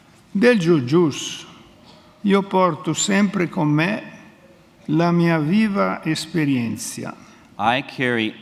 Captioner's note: speaks in Italian